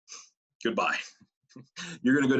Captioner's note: laughs